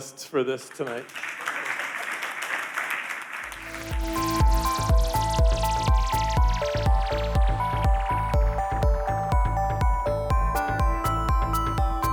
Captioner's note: applause